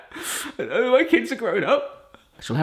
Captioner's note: crying